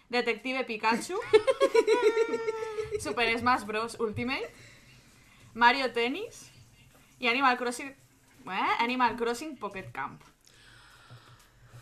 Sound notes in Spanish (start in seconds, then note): 1.2 risas